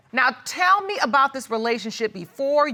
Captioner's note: none